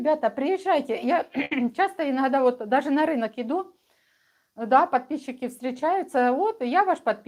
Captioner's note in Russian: откашливается